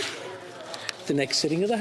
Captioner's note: speaking French